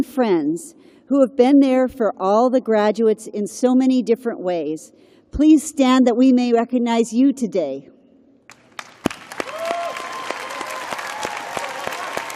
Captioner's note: applause